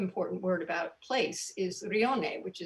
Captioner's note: speaking in foreign language